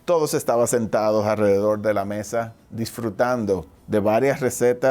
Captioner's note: speaking foreign language